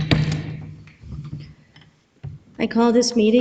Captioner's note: gavel pounds